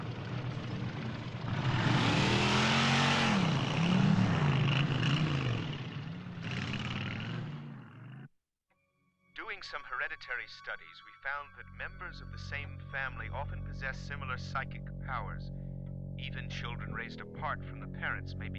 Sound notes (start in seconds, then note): 2.1 motorcycle revving